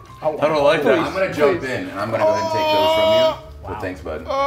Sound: laugh

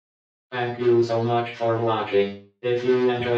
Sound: computer Voice

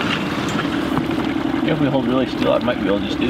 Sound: boat engine vibrating

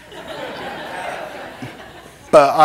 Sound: laughter

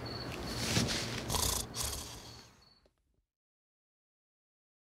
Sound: snoring

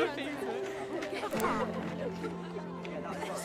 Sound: camera shot

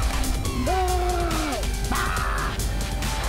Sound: both groan

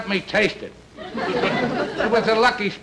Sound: audience Laughing

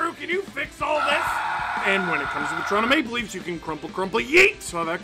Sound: screaming

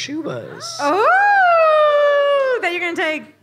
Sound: audience cheers

